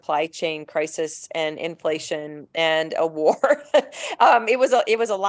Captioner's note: chuckling